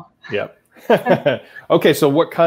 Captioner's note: laughing